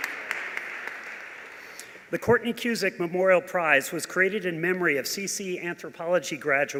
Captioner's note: applause